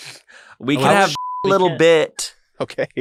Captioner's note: beep